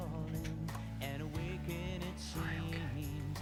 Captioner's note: Owen whispering